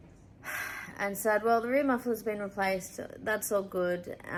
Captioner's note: sigh